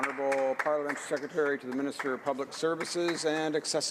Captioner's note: applause